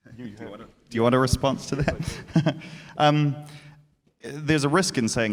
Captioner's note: laughs